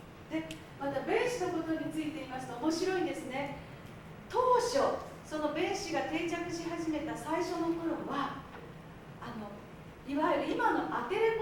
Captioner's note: speaking Japanes